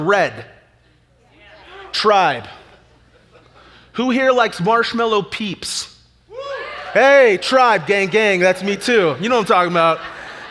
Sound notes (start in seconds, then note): 0.2 audience chatter; 6.1 audience chatter